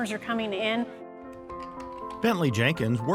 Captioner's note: gentle music; keyboard clicking